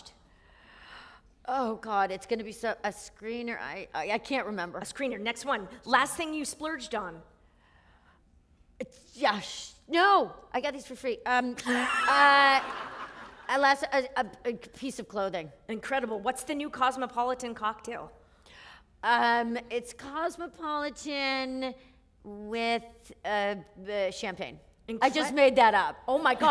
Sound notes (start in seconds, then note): 13.4 laughter